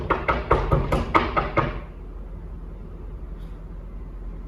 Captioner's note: knocking intensifies